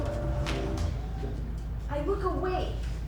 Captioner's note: snap